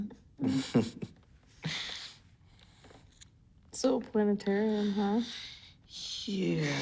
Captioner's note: chuckles